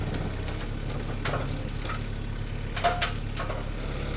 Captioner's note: wood creaking